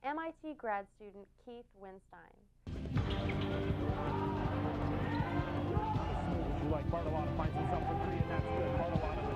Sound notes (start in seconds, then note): 3.0 gym ambience